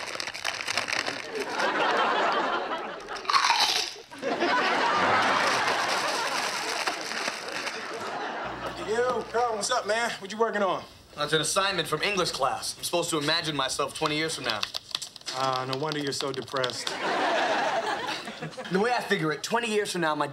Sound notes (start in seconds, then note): 3.0 crunching; 4.1 audience laughing; 16.8 audience laughing